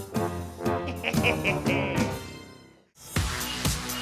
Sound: laughs

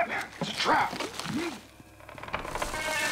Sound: muffled grunts

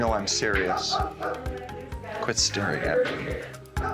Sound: dogs barkings, people talking in the background

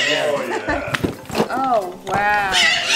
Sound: bird squawking loudly

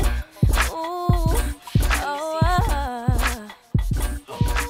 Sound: vocalizes

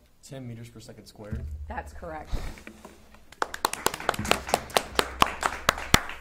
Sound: audience applauding

